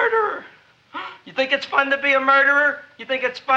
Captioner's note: gasps